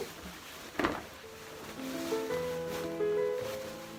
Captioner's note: silk rustling